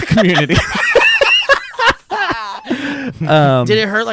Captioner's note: laughing